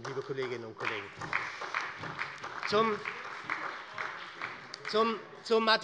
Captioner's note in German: Beifall bei der SPD